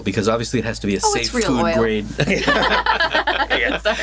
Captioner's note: laughs